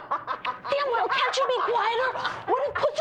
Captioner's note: gleeful laughing and cackling; cackling cont